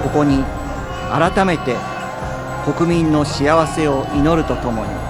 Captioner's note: orator speaking Japanese